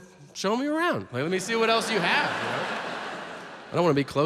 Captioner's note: audience laughs